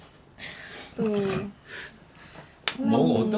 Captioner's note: crack up